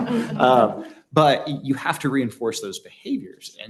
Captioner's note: laughter